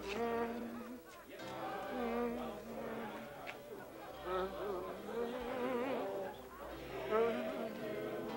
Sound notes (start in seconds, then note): 0.0 people singing in background; 0.0 man humming